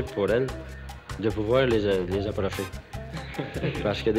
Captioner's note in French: rires